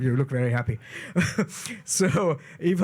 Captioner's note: chuckles